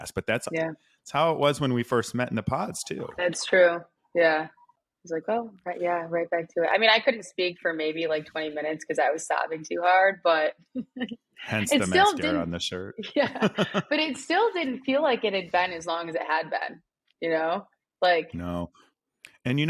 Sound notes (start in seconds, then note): 13.2 chuckles